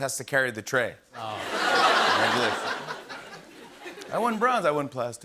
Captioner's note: laughter